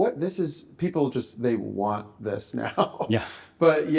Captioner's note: chuckles